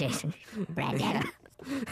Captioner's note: in funny high voice